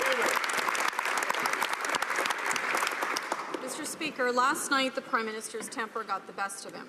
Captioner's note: some Applause